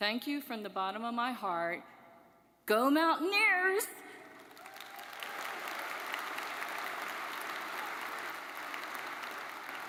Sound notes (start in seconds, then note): 4.5 audience cheers